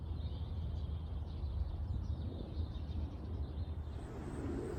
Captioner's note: animals and birds chirp excitedly